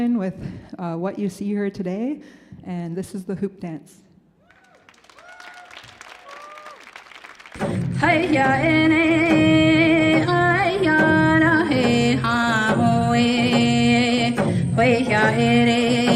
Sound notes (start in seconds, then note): 4.4 audience cheers and applauds; 7.8 person singing in Native language